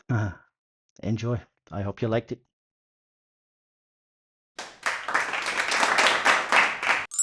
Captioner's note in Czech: Potlesk